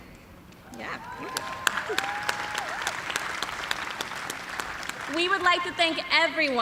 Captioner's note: cheers and applause